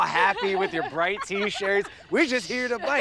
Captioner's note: cyclists laugh